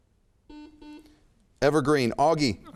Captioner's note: buzzer chimes